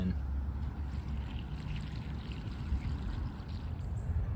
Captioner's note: water pouring sound